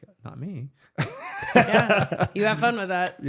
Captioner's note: laughing